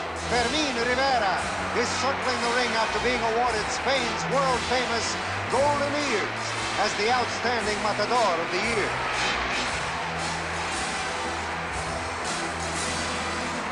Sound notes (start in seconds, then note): 9.0 crowd cheers